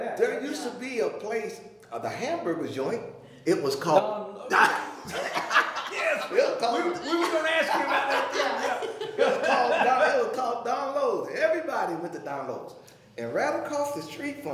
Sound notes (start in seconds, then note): 4.5 all laughing; 9.7 laughing